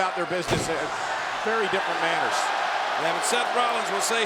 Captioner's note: feet thudding